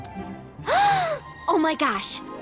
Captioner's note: gasp